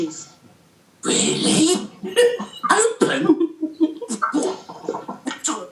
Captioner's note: childlike wonderment voice returns; laughter from the group